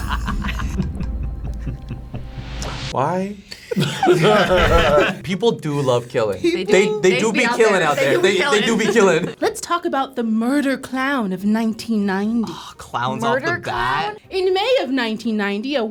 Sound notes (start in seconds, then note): 0.0 tense music; 3.5 laugh; 3.8 animation whooshes